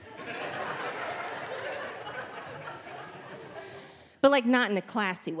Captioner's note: audience laughing